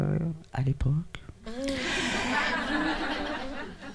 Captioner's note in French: rires